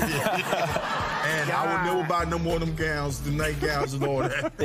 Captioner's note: laughing